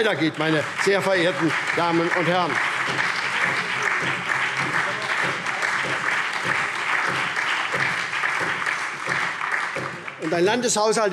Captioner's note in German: Beifall